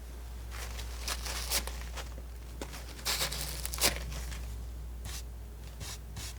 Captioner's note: scratching